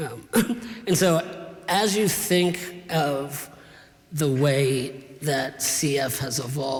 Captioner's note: clears throat